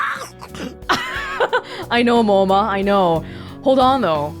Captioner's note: chuckles